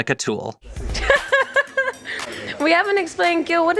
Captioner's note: laughs